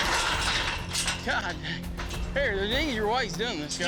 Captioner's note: pens clanking